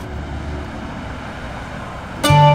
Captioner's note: Car approaching